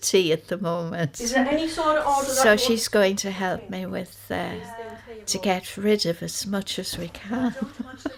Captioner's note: laughs